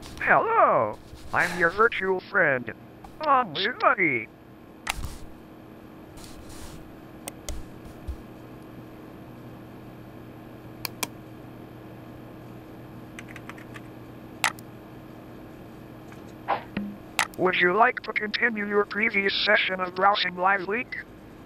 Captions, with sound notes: - Hello, I'm your virtual friend. BonziBuddy! (mouse clicks) (keyboard taps) Would you like to continue your previous session of browsing LiveLeak?